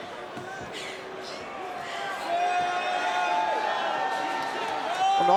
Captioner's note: Royce breathes heavily